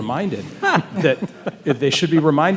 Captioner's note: panelists laugh